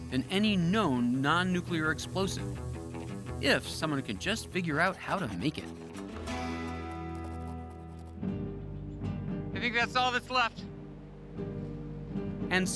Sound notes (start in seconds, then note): none